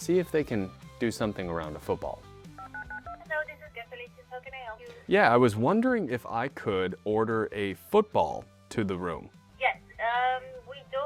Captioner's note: phone dialing